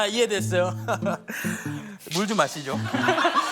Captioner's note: inhaling